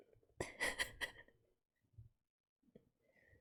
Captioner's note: laughs